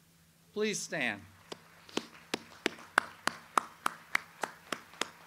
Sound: audience applauds

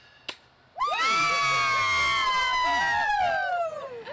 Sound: women cheering

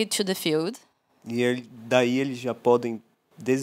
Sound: non-english speech

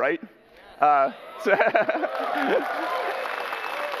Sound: applause

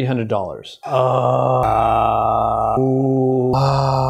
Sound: groans

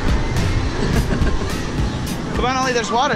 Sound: laughs

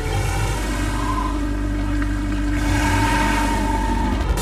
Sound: tires squealing

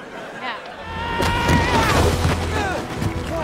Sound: screaming

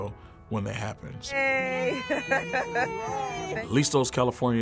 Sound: laughter

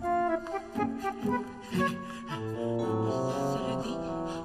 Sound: Reddy huffs

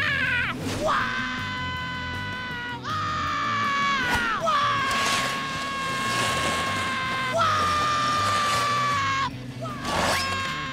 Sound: screaming

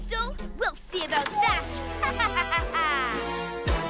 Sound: evil laugh

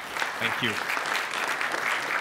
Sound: applause

